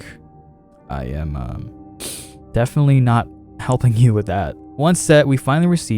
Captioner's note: sniffle